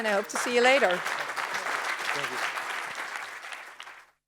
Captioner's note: audience applauding